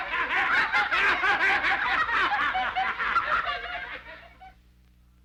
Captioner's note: family laughing